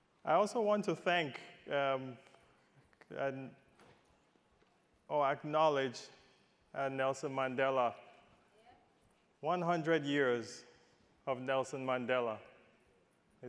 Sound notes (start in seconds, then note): none